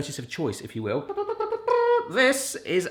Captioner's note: imitates trumpet blares